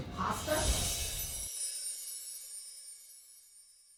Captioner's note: bar chimes